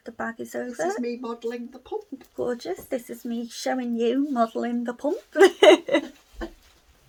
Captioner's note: laughter